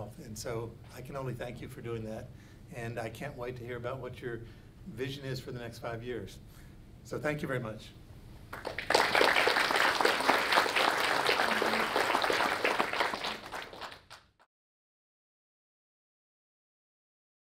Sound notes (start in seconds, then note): 8.5 audience applauds